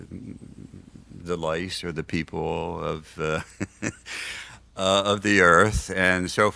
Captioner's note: laughs